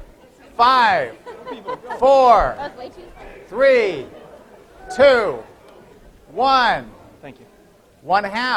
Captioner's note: laughter